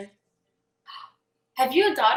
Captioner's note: gasps